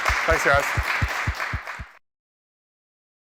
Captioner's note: clapping